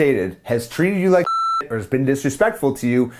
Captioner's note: beep